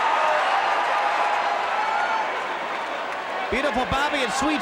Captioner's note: crowd cheers